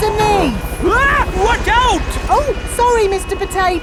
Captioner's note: screams